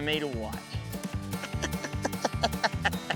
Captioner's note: laughing